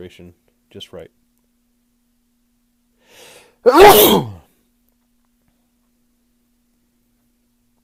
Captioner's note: sneezes